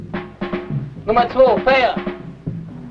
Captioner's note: foreign language